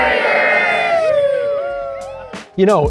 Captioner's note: cheering